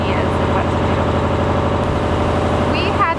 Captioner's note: engine revving